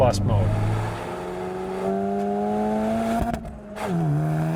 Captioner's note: engine revving